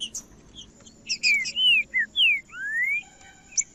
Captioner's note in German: trinca ferro cantando